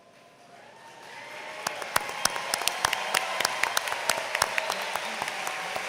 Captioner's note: applause